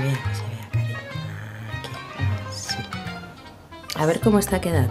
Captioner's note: whisper